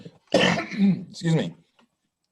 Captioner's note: coughs